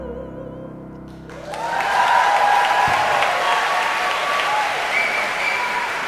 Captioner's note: audience cheering and applauding